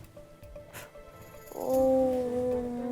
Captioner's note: inhale